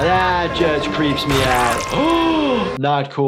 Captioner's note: bone crackling; gasps